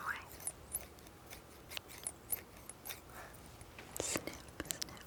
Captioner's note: scissors squeaking